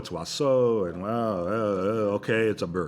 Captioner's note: mumbles